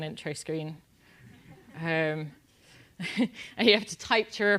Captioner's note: laugh